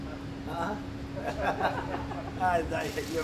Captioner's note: laughter